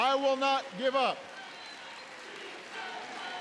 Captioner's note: applause